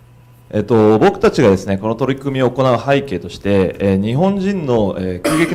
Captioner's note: speaking foreign language